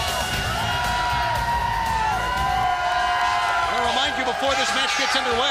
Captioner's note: crowd cheering